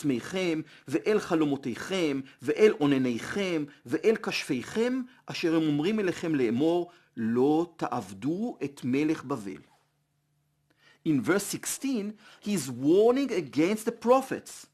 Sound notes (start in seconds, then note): 7.2 Hebrew